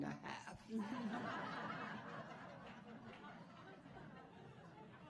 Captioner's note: audience laughing